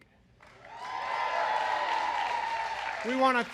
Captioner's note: applause